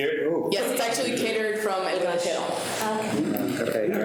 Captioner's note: audio dropping